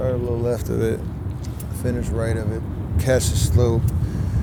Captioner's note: none